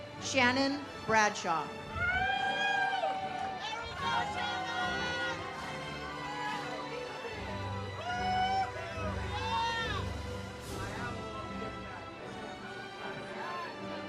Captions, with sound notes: Shannon Bradshaw. (audience cheers) (ceremonial music)